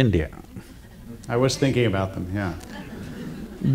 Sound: laughter

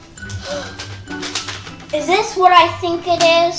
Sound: gasps

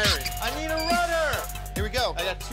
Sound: rat squeaking

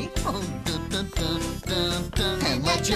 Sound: humming

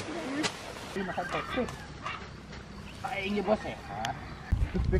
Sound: speaks Indonesian

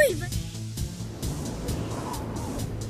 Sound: wind blowing

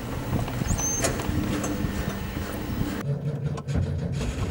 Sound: trying to start engine again

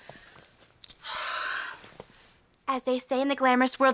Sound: sighs

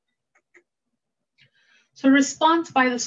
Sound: mouse clicking

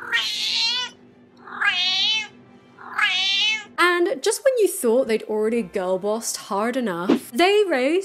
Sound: cat howls like a drama queen

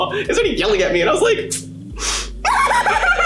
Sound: sucks teeth; cries dramatically

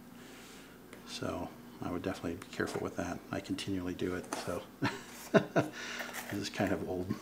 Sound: laughs

